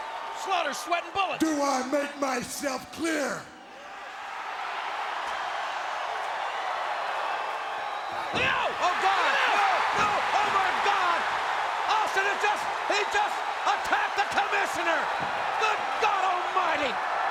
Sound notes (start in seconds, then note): 3.8 crowd cheering